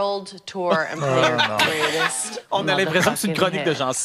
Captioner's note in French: rires